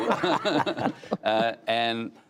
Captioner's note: laughter